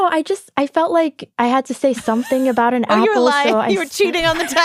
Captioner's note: laughs